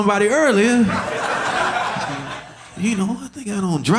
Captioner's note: audience laughing